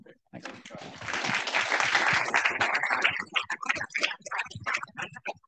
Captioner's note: audience applauding